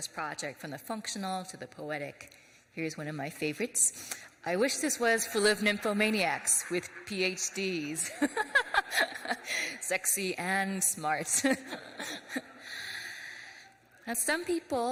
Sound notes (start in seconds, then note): 7.6 laughs; 7.8 audience laughs; 7.8 laughs